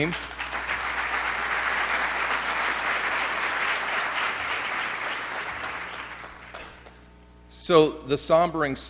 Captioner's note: applause